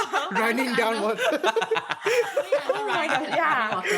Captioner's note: laughs